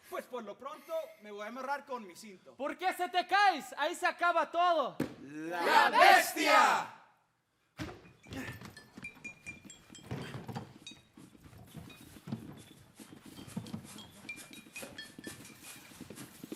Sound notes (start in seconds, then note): 0.2 speaking Spanish; 5.2 performers speaking in Spanish